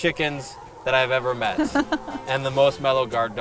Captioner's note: chuckles